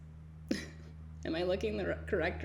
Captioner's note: giggles